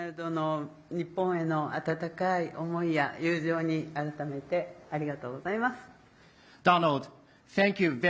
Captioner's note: speaking Japanese